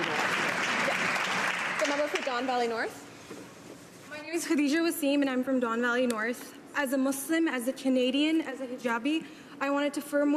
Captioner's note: applause